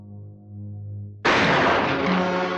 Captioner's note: firing